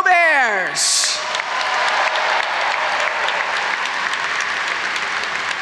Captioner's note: audience applauds